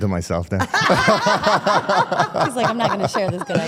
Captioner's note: participants laugh